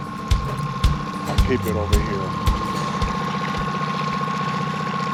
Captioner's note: boat engine idling